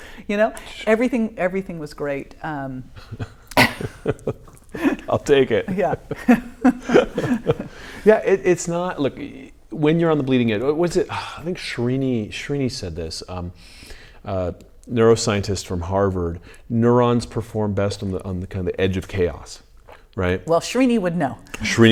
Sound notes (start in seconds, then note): 3.0 laughing